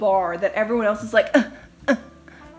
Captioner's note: grunts awkwardly